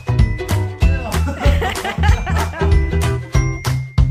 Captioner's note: laughing